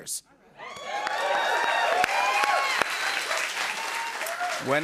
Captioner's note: cheers and applause